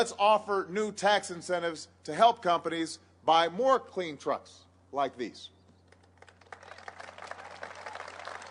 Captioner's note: applause